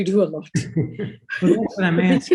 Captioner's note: laughing